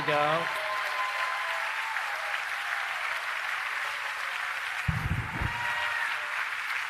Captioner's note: applause